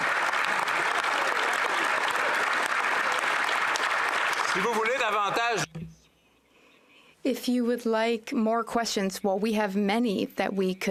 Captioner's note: some Applause